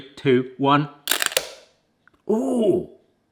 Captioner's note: egg cracks